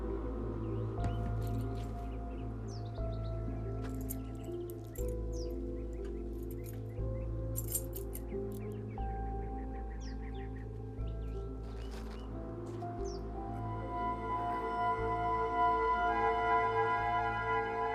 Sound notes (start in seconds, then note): 5.4 keys jiggle; 9.6 soft mysterious music; 14.8 slow tense music